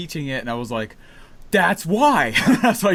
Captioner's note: laughs